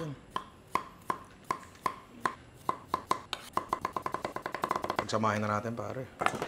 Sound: chopping

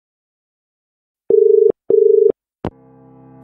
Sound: dial tone

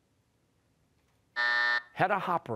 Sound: buzzer

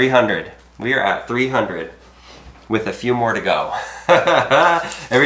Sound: chuckling

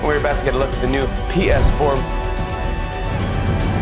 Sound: whoosh

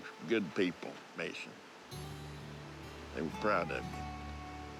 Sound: none

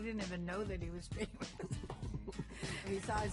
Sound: laughing

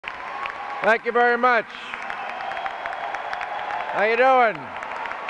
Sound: clapping and cheering

